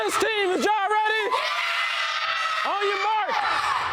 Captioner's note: kids screaming